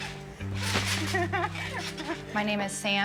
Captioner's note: laughter